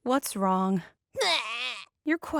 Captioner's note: crying